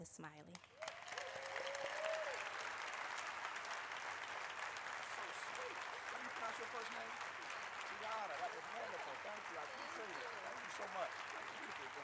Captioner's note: applause